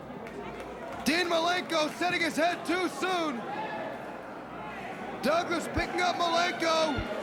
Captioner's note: crowd chatter